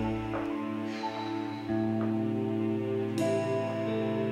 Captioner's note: sighing